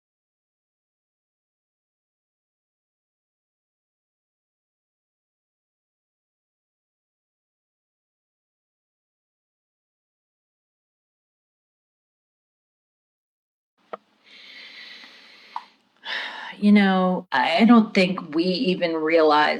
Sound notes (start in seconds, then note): 16.0 woman sighs